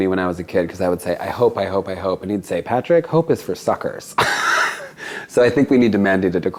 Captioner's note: laughs